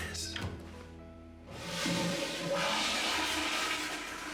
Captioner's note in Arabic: تدفق المرحاض